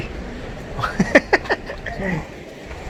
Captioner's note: laugh